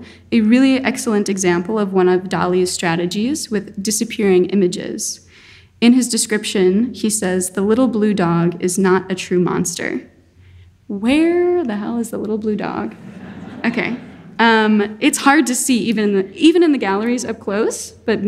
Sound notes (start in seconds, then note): 12.9 audience laughing